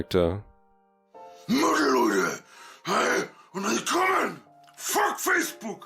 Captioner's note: he yells throught the entire video